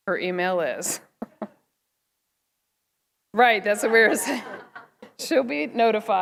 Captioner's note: laughter